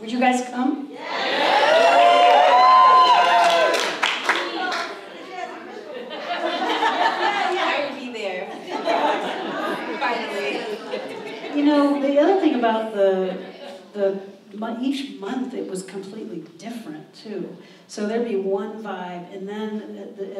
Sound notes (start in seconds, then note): 1.0 audience cheers; 6.5 audience laughs